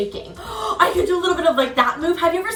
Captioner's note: gasps